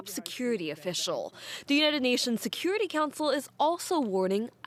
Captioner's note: speaking alternate language